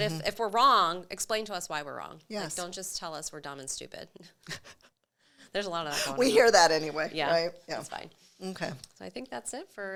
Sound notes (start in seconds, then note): 4.4 chuckles